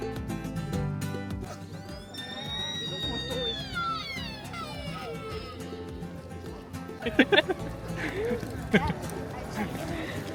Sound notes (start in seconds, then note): 1.4 deer sounds continue in the background